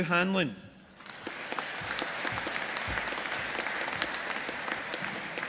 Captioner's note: audience applauding